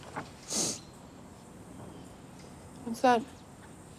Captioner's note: sniffs